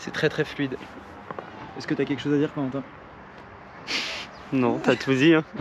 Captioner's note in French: rires